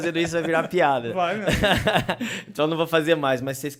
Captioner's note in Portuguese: Risos